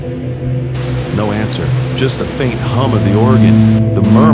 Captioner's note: static